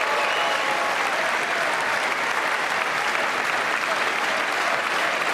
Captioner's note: applause